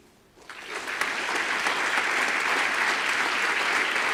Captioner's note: audience applause